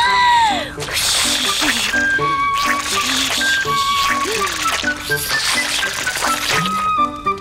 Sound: blowing

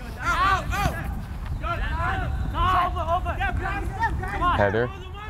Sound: players talking and yelling

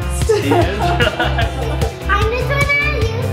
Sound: laughing

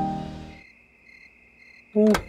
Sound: crickets chirping; door opens

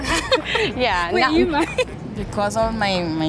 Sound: laughs

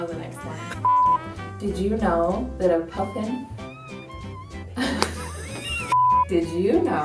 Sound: laughs

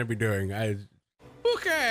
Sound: Goblin Dialect

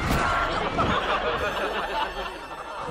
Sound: laughing

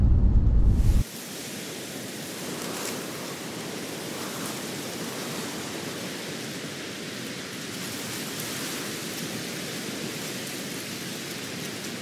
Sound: wind blowing

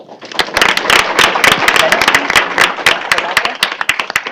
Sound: applause

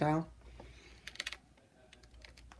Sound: phone cracks

